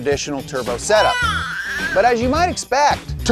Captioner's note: crying